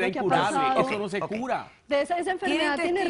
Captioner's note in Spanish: Hablan al unísono